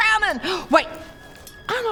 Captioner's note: gasp